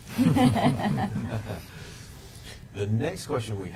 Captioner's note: panel chuckling